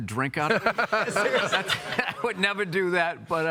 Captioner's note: all laughing